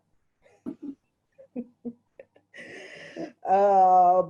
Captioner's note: chuckles